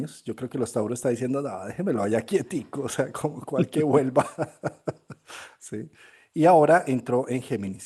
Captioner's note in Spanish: risas